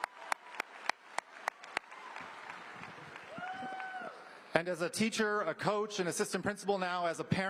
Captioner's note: applause